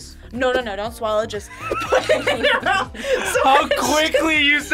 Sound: both laugh

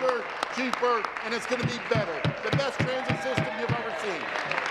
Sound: applause

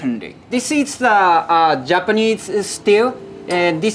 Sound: text chiming

